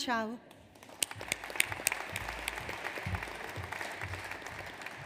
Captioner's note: audience applauds